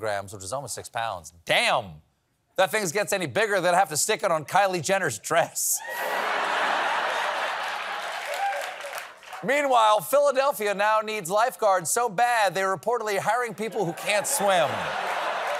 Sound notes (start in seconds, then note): 6.0 laughter; 9.4 applause